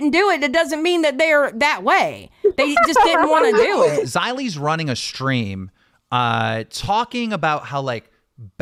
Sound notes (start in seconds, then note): 2.4 laughs